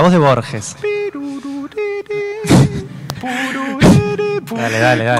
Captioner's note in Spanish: tarareando